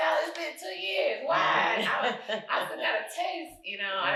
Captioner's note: chuckles